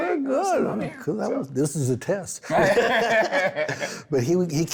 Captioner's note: both laughing